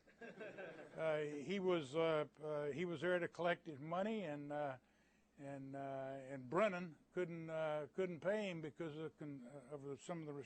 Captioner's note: laughter